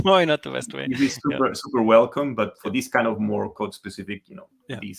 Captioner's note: laughs